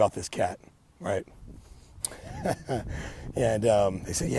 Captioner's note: laughs